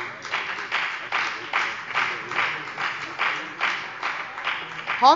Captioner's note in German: Beifall bei der FDP